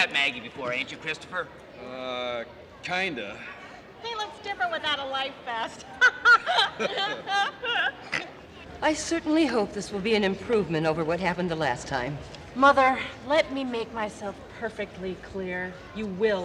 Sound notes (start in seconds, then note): 5.6 laughing